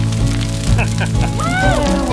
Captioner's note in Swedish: Skratt